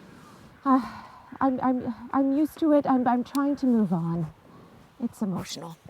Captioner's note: sighs